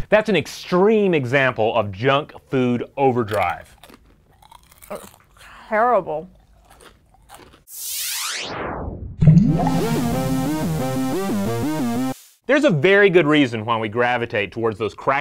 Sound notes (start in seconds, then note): 3.3 chips crunching; 7.7 electronic whooshing; 9.3 driving electronic music